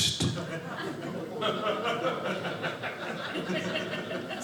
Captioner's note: audience laughing